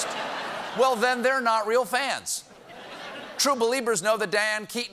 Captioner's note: laughter